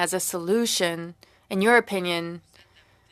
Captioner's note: speaking French